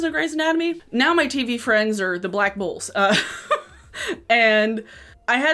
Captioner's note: laughs